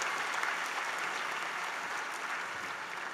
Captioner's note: applause